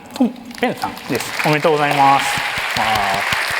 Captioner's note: applause